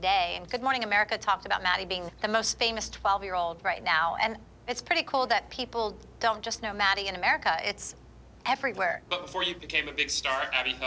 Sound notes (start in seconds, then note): none